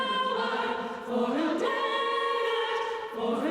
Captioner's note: none